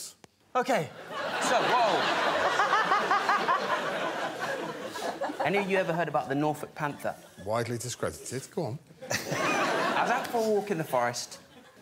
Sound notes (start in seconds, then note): 2.9 laughter